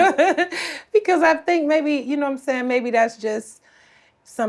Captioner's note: laughs